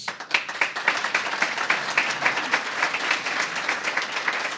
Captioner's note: applause